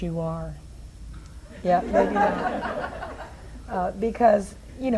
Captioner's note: audience laughs